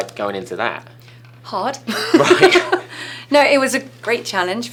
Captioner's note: laughing